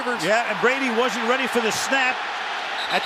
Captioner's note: cheering